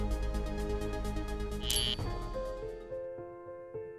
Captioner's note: estática de rádio